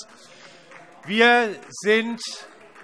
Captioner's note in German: Beifall Freie Demokraten